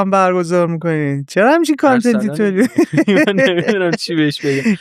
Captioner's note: laughs